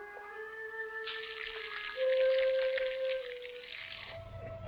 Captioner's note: sizzling